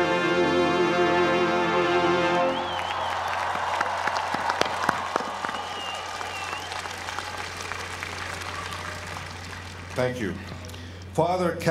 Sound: applause

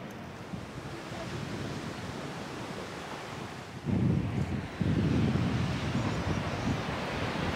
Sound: sound of waves and gusts of winds

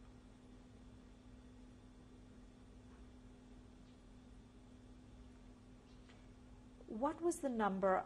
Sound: pauses for 7 seconds

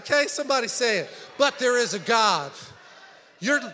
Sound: congregation chattering

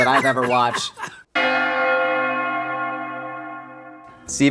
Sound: bell Ringing

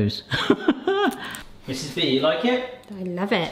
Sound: laughing

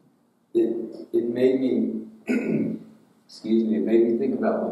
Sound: throat clears

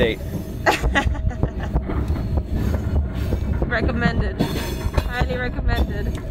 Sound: laughs

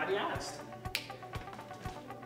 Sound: snap

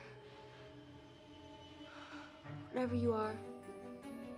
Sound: exhales shakily

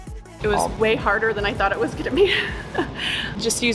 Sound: laughs

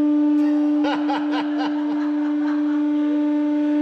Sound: both: laughing

